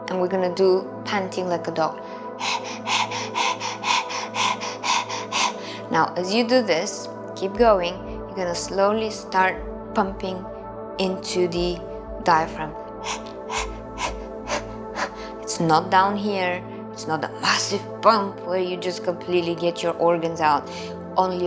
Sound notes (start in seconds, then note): 2.4 panting; 13.0 panting